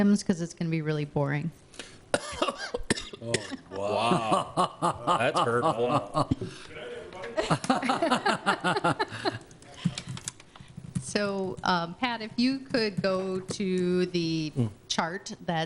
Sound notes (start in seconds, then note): 2.1 coughs; 3.6 laughing